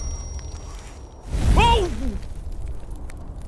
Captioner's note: whoosh!; crackling of burning villagers